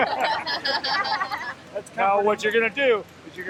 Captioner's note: everyone laughing